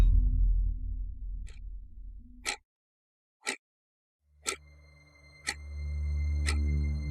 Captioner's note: clock ticking; eerie gentle music